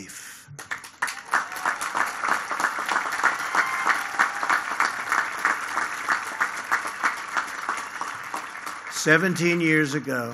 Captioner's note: applause